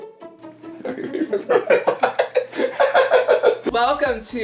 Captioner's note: laughing